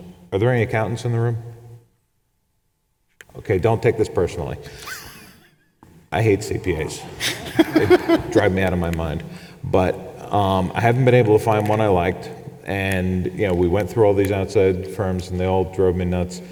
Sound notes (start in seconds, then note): 7.1 chuckles